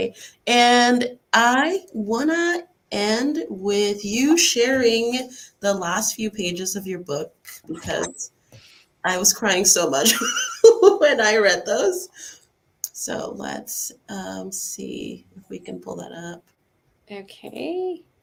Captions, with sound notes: -I want to end with you sharing the last few pages of your book, because I was crying so much [laughs] when I read those. Let's see if we can pull that up. -Okay.